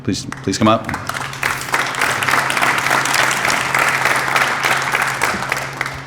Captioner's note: applause